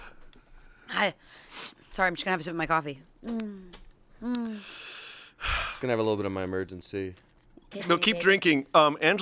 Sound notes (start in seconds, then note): 5.3 sighs